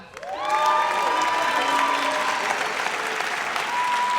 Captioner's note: audience cheers